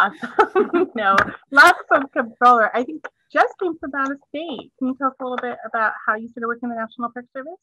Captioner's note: laughter